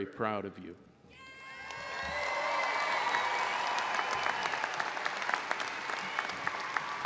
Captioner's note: audience cheering and applauding